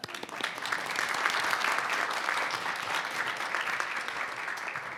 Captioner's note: audience applauding